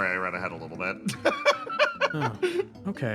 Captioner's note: laugh